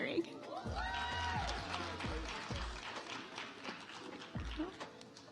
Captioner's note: audience applauds